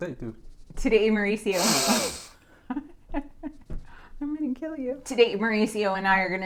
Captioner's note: sniffs